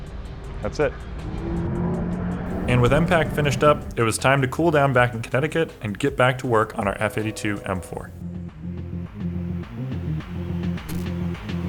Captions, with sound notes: that's it. (engine humming) And with MPACT finished up, it was time to cool down back in Connecticut and get back to work on our F82 M4. (upbeat music)